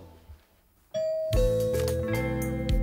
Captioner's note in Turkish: Zil sesi